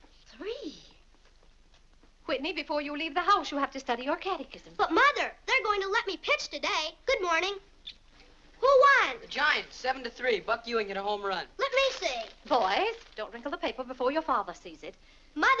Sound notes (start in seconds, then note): 11.6 paper rustling